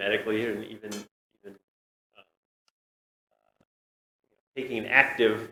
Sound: audio cuts out

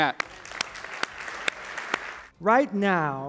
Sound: applause

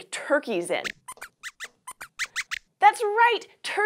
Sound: squeaks squeaks

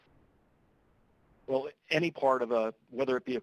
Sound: voiceover

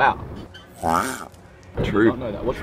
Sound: turtle grunts

